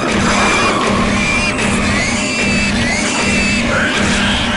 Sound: pig squealing; gunshots and pig noises

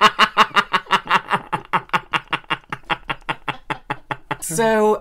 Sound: sounds Like Someone Trying To Jumpstart A Car Laughter

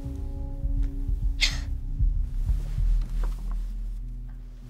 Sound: dark atmospheric music; scoffs

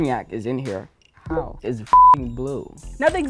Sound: beep

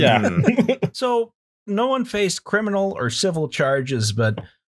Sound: laughter

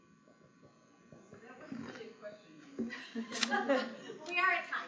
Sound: laughs

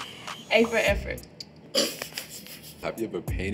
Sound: laughs

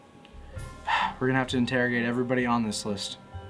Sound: sigh

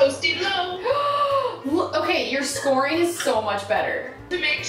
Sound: gasps

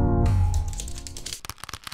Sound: skittering; leather creaking

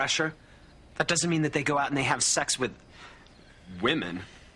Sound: dramatic gasp

